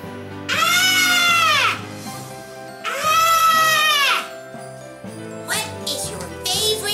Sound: screaming

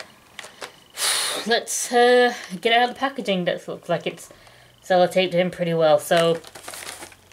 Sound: exhales

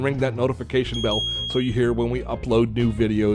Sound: bell rings

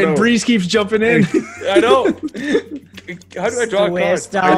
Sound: laugh

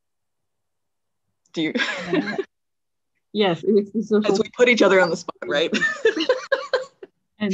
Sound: laughs

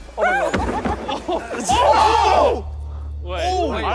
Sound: all exclaiming

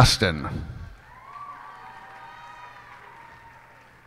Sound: cheers and applause

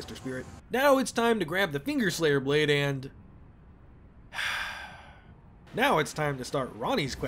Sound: defeated sigh

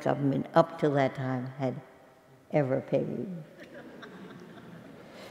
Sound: laugh

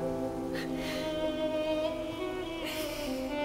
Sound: Googly sobbing

